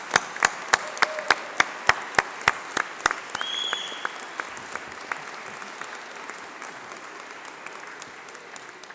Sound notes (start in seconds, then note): 2.4 applause